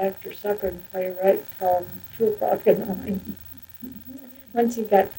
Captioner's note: laughs